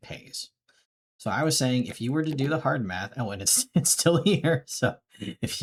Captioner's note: laughing